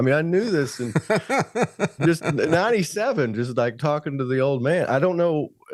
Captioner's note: laughing